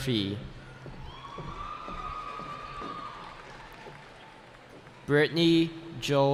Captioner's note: cheering